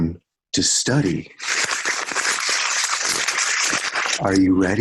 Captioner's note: paper crinkling